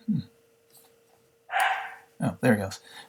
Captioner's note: dog barking